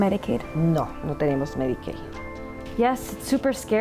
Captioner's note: interpreter speaking in Spanish; speaking in Spanish